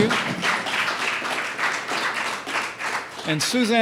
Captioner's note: applause